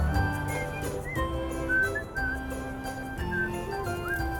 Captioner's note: whistling